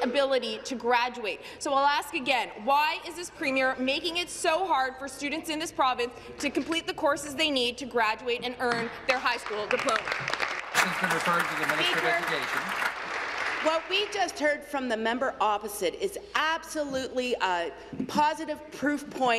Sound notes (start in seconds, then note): 13.6 applause